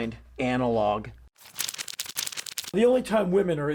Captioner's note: pages flipping